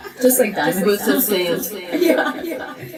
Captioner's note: laughs